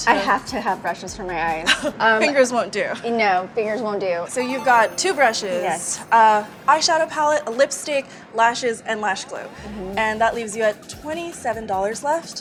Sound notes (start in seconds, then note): 2.0 laughs